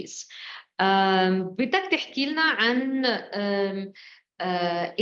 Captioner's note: speaking arabic